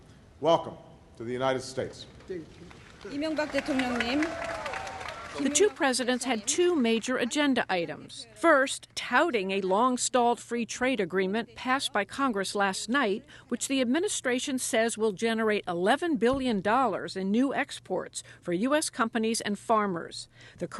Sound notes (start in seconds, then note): 2.6 applause